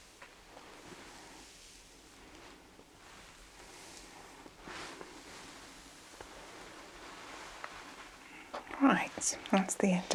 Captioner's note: shuffling and ruffling